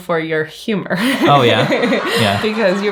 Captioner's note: crowd laughs; laughs